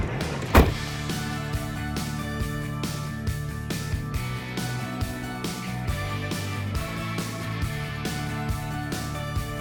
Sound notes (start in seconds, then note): 0.5 door clatters; 0.8 cheerful carefree music